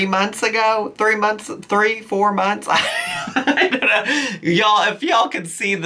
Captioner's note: laughs